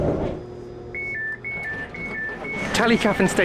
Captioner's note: doors beeping